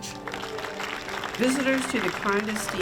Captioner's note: all applaud